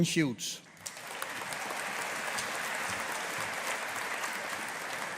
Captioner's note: audience applauding